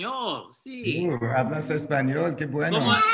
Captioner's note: speaks in Espagnole